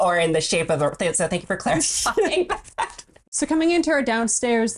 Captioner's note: laughs